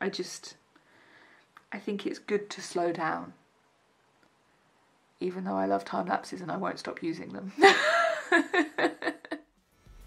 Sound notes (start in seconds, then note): 7.7 laughs